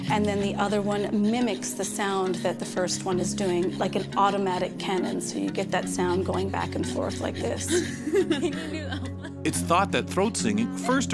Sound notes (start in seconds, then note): 7.4 laughing